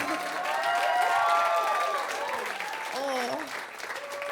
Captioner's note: audience cheers